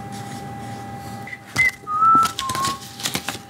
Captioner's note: whistles a tune